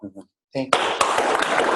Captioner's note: applause